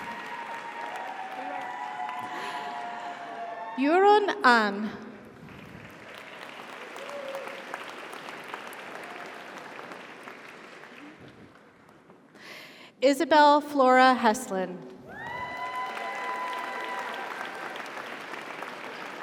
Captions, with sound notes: - Sarah, congratulations. - Yuran An. (audience applauds) (audience cheers) Isabel Flora Heslin. (audience applauds) (audience cheers) - Congratulations. - Thank you.